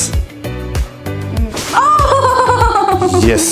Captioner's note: screaming